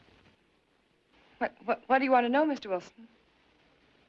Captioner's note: stuttering